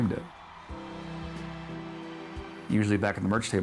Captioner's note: crowd cheering